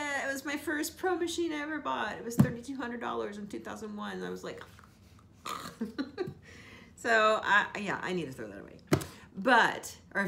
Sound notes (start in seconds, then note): 5.4 gags; 5.4 laughs